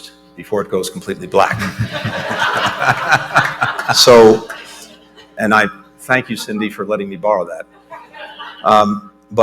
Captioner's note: laughter